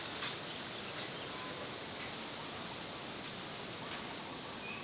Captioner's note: birds chirping